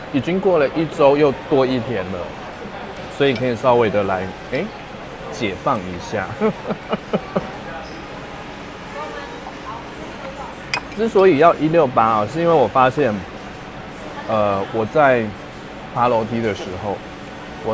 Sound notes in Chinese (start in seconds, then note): 6.0 笑聲